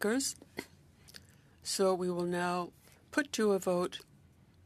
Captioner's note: speaking French